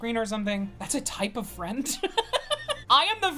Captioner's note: laughs